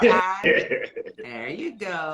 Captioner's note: laughing